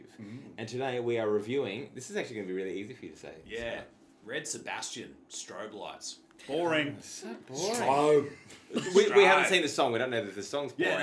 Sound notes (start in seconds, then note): 4.3 in Aussie Accent